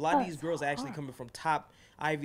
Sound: voiceover

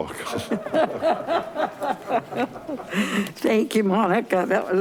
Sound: laughs

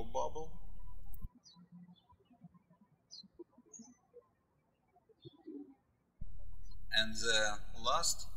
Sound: birds chirping

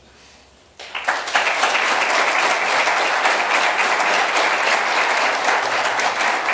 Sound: applause

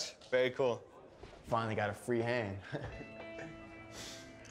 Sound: chuckles

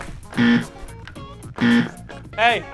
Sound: buzzer

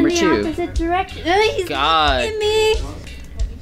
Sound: disgusted noise

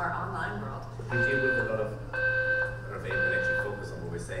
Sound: alarm beeping drowns out

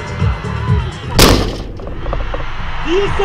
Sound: thud

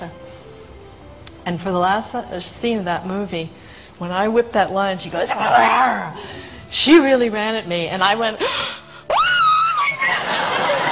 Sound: screams

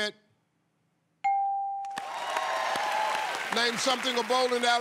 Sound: cheers and applause

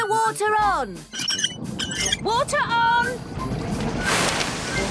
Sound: wheel squeaking

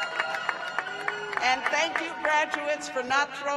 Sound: cheers and applause

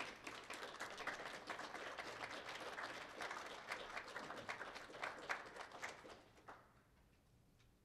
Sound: applause

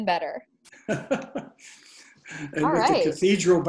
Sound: laughs

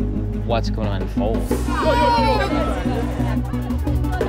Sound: crowd clamoring

